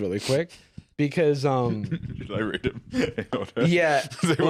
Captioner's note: laughing